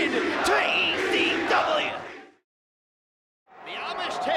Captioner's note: crowd chants "ECW"